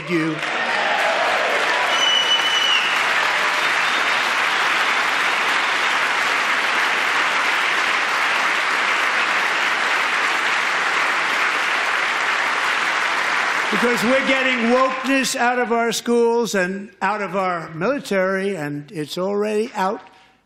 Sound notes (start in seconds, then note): 7.7 applause